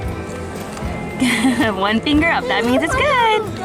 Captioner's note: laughs